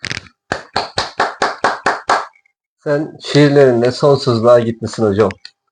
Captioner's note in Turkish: alkış